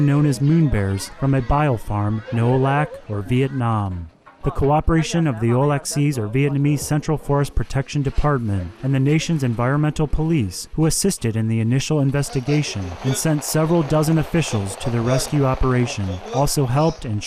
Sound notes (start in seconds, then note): 5.9 Vietnamese